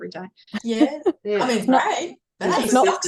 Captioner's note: everyone is talking